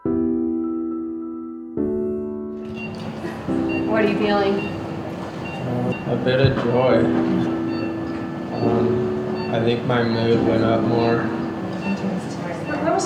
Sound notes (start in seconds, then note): 2.9 machines beeping